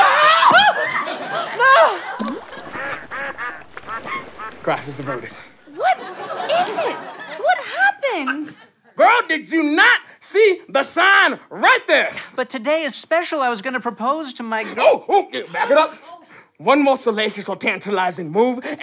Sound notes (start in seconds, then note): 0.0 screams; 2.1 plopping sound; 2.3 ducks quack